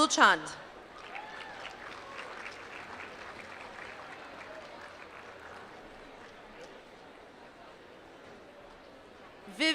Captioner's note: applause